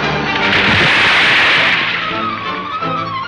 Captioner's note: car splashing